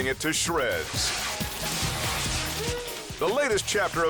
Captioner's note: paper crinkling